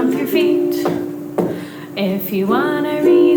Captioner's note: feet stomping